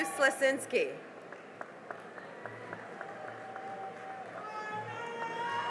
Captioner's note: cheering and applause